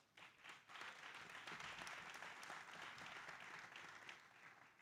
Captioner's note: audience applauding